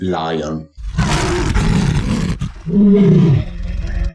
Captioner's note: raarww